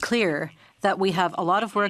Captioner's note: speaking French